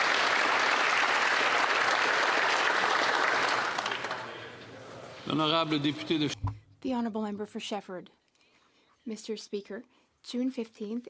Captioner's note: applause